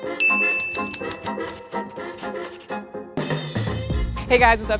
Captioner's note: keyboard clacking